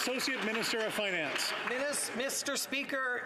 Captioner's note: some Applause